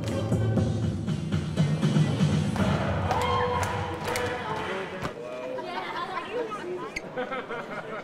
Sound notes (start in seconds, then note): 3.0 cheering